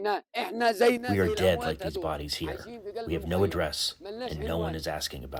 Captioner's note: through translator